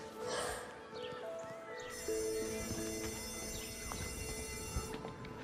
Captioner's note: sighs; bell ringing